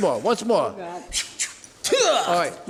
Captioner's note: makes karate noise